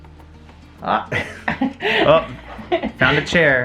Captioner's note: laugh